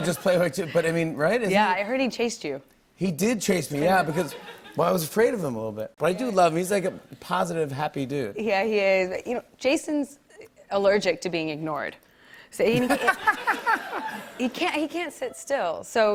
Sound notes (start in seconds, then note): 12.7 laughs